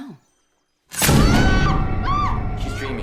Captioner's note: screams